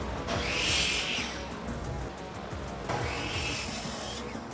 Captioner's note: saw machine whirs